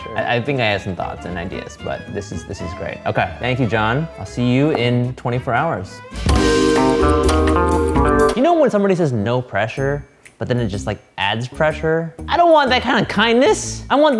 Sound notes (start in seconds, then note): 6.6 lighthearted music; 6.7 timer ticking